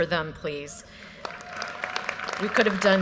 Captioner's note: audience applause